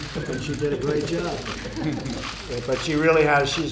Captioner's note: laughter